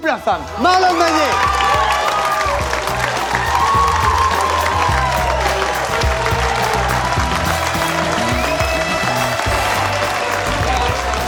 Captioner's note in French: aplaudissement